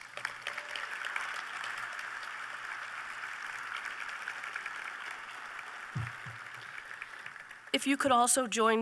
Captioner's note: applause